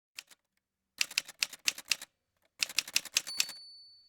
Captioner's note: typewriter sounds